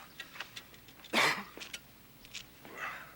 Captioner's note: coughs